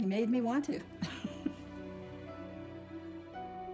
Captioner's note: laughs